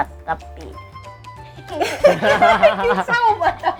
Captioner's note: all laughing